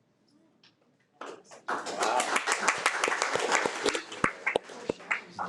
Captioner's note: audience applauding